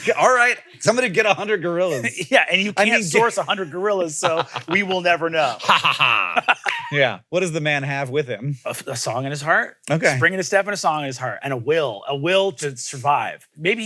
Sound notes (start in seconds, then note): 6.3 laughs